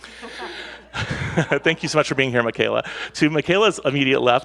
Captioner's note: laughs; panelists laugh